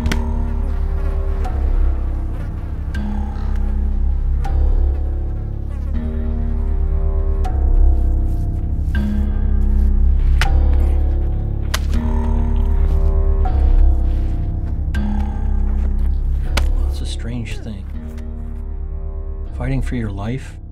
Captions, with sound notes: [Flies buzzing.] It's a strange thing, fighting for your life.